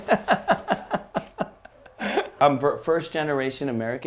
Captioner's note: laughing